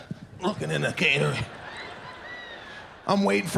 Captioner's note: audience laughs